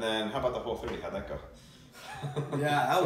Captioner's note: laughs